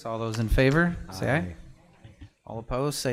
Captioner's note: in Unison